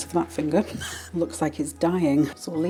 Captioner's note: laugh